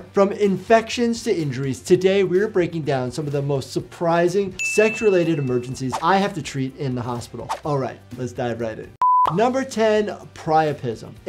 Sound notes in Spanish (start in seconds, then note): 9.0 la pantalla emite un pitido